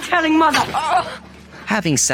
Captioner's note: groaning